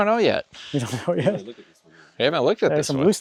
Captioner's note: laughing